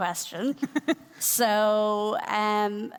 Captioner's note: laughing